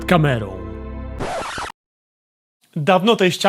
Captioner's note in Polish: zgrzyt płyty gramofonowej